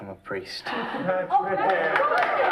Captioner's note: applause